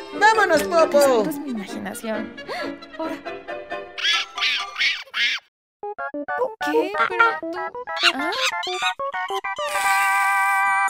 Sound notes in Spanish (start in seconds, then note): 7.9 Chillidos de mono